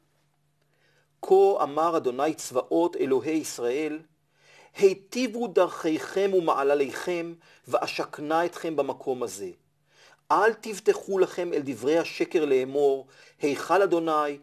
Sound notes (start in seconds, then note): 1.5 Hebrew